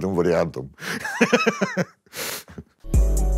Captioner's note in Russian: смеется